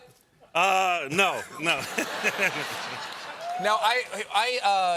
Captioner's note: laughter